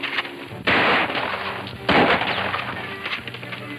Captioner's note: guns roaring